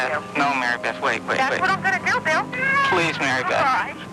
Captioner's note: baby crying